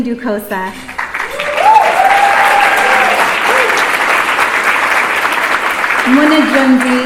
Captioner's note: applause